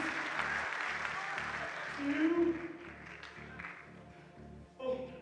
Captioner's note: applause